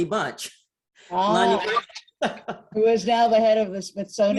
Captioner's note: laughs